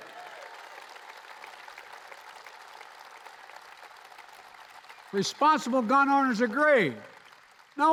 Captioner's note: applause